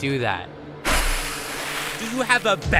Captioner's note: splash